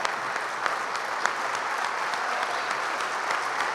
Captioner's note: applause